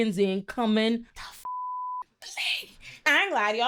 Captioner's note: beep